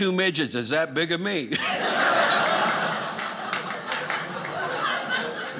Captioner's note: audience laughing